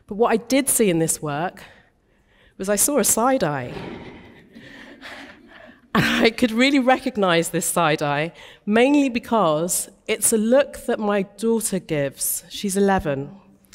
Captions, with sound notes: But what I did see in this work was I saw a side eye. (audience chuckling lightly) And I could really recognise this side eye, mainly because it's a look that my daughter gives, she's 11.